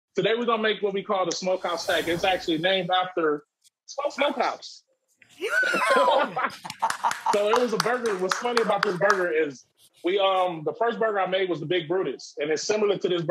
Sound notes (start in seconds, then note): 5.4 laughing; 6.4 clapping